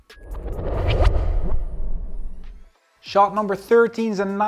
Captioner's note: transition whooshes